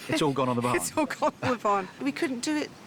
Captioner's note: laughing